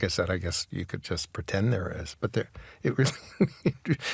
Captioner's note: chuckles